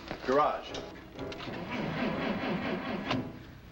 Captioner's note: engine sputters